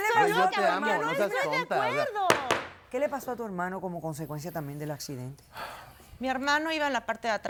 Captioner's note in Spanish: Hablan al unísono